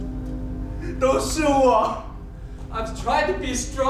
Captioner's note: speaking in a foreign language